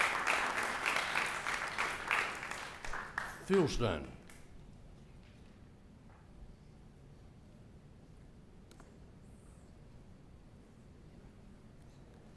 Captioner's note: applause